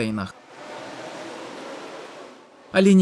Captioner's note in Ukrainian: Сплеск води